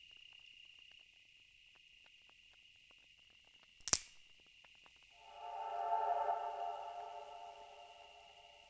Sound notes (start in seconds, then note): 3.8 twig snapping; 5.1 tense eerie music